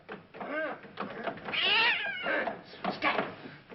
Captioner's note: cat screeches